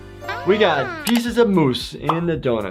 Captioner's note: Flaky exclaiming